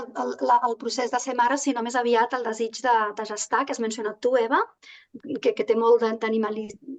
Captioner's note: continues speaking in Catalan